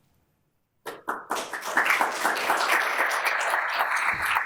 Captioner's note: audience applauds